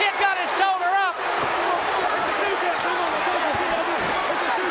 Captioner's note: audience cheering